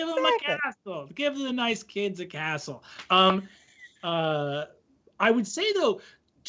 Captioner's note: laughing